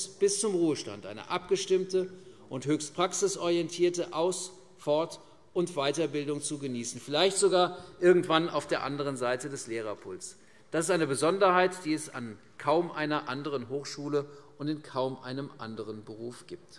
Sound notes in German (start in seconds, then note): none